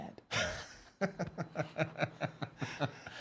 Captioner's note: laughs